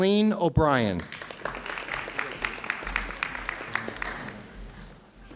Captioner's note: audience clapping